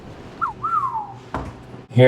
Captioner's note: whistling